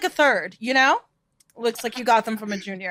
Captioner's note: group laughing